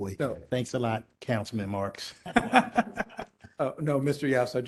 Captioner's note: laughter